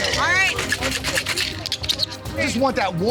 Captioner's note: drink shaking